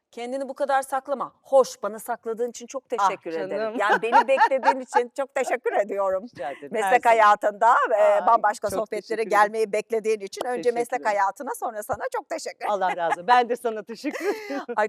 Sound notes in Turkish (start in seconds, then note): 3.8 kahkaha